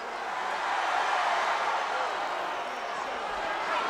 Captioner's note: crowd cheers